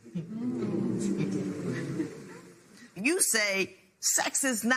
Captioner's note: spectators murmur